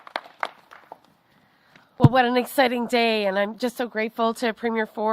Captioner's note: applause